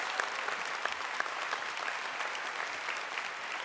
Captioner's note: applause